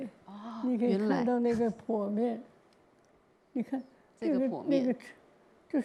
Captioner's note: Mandarin; Mandarin